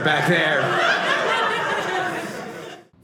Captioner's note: audience laughing